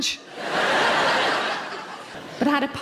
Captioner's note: audience laughing